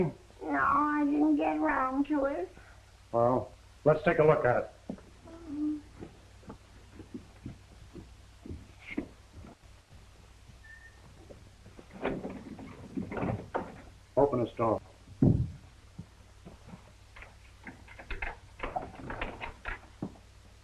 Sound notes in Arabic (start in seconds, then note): 11.6 خشخشة مقبض الباب; 17.5 النقر على القفل